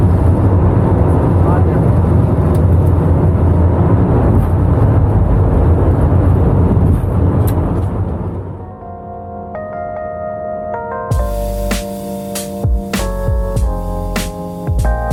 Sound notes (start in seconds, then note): 0.0 aeroplane engine roaring for takeoff; 10.8 upbeat music